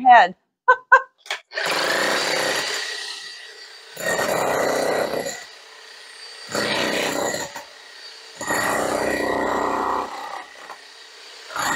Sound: jackhammering

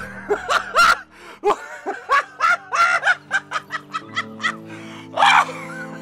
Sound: laughs uncontrollably

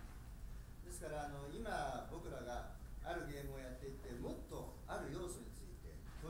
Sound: speaking in foreign language

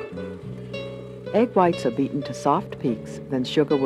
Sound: voiceover

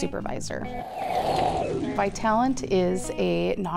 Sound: whooshing

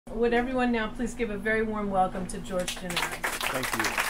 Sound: applause

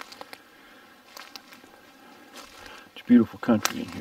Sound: twigs snapping

